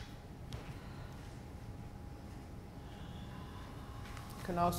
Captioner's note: people exhaling